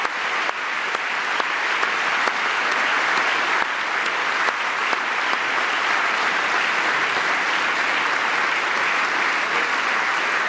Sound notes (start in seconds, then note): 0.0 applause; 8.1 applause